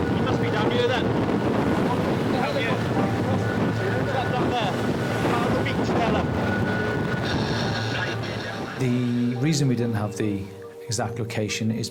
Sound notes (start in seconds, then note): 2.3 rescuers chatting; 5.9 rescuers chatting